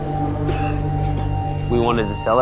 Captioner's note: coughing